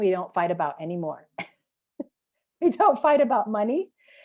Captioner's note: chuckle